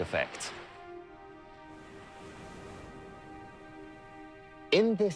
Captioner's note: soft dramatic music; waves crash